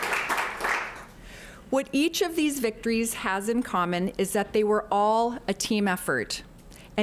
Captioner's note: applause